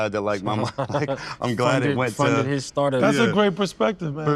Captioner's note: laughs